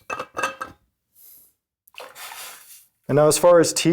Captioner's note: metal clanking